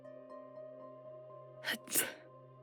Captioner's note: troll sneeze